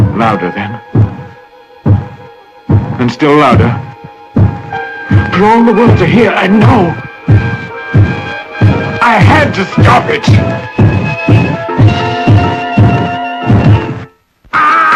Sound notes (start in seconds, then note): 1.8 heart beating louder; 3.4 heart beating louder and even faster now; 4.1 intense suspenseful music; 6.6 heart beating incredibly fast and loud; 8.5 intense suspenseful music; 11.1 heart beating erratic, fast, loud; 14.5 screaming, loud clamor, music